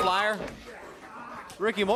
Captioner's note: crowd cheering